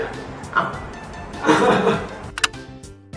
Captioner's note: laughs